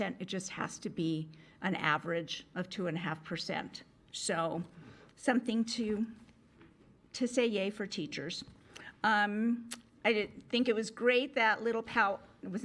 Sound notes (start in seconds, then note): none